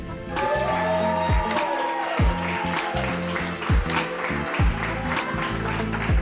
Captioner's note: group applauds and cheers